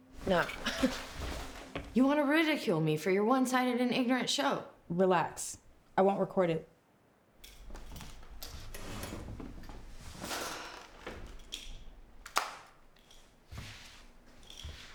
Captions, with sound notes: - No. (scoffs) You wanna ridicule me for your one-sided and ignorant show. - Relax. I won't record it. (chair scrapes)